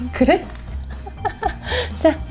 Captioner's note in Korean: 웃음